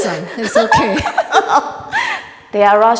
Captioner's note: laughing